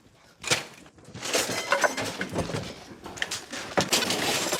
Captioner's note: debris clatters